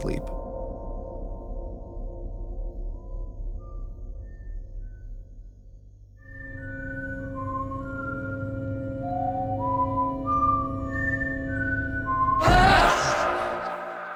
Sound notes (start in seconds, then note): 2.5 whistling; 12.4 ghostly shouting